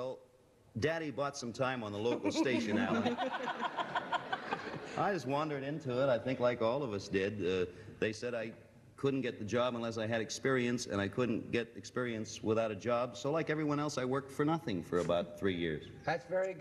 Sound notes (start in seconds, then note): 3.7 laughter